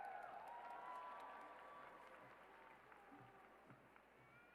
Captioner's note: cheers and applause